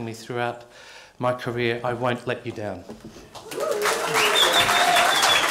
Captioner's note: cheering and applause